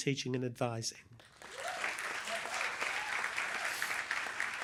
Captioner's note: applause